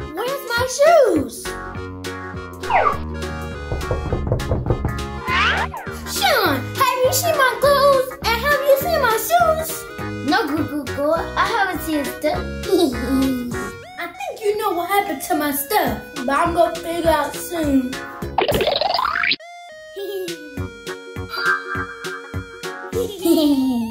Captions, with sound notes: Where's my shoes? (knocking) Sean, have you seen my clothes, and have you seen my shoes? - No, GooGoo Girl. I haven't seen your stuff. (mischievous giggling) - I think you know what happened to my stuff, but I'm gonna figure out soon. (mischievous giggling)